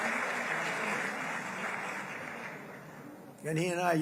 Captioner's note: applause